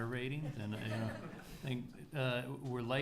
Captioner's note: attendees laughing